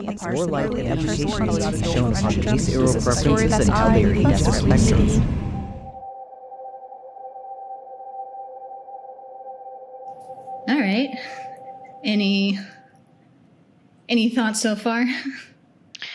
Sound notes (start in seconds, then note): 0.0 overlapping voices build in volume; 3.2 loud wind